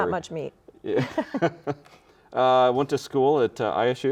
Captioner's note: laughing